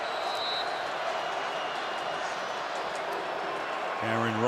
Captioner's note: whistle blows